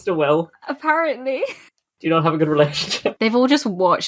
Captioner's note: laughing